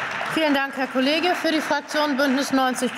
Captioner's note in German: Beifall